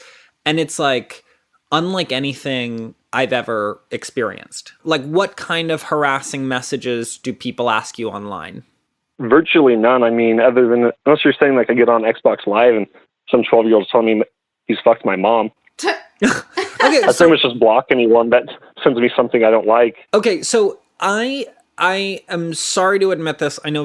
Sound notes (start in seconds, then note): 16.2 laughs